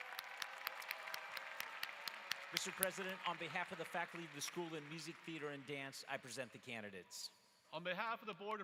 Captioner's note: applause